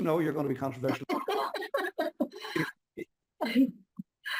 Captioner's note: laughs